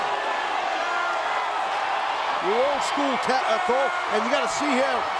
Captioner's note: applause